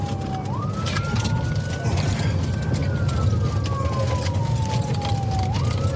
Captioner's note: siren wailing